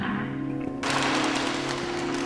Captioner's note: plastic rustles